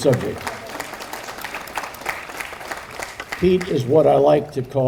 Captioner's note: audience applauding